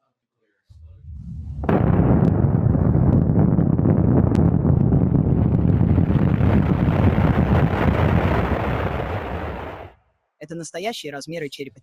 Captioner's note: explosion